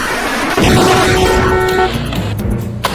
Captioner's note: cars crashing; horn honking; suspenseful music